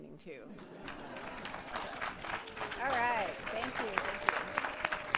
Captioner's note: applause